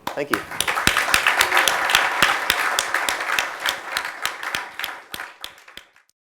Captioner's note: clapping